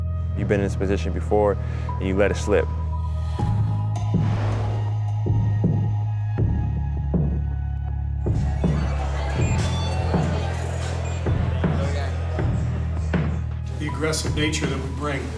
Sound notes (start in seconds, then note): 3.0 atmospheric instrumental music; 8.4 beeping